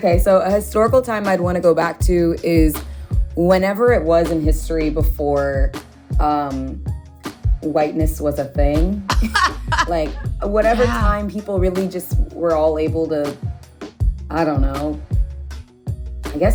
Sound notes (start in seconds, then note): 9.1 laughs